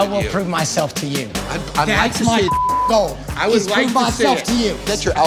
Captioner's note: beep